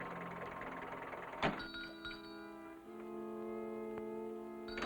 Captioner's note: bell ringing